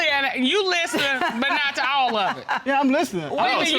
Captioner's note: laughing